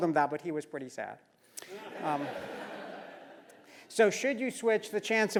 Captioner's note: laugh